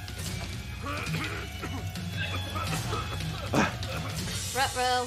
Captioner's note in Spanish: tosiendo